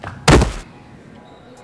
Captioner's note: thud